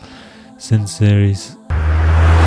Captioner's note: woosh